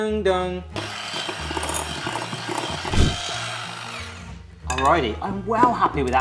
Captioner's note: Headwhisk whirring